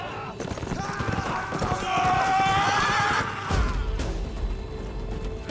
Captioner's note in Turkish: Bağırıyorlar